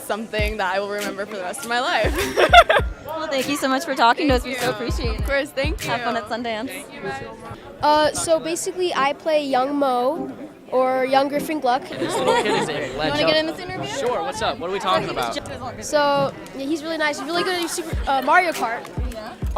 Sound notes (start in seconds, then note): 2.0 laughing